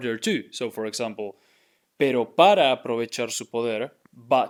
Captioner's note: speaking in Spanish